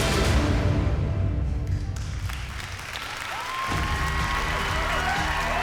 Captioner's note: cheering, applause